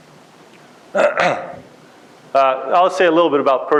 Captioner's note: clears throat